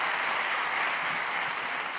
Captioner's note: cheers and applause